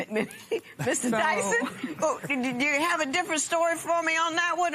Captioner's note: laughs